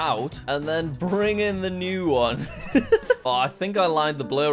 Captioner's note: laughs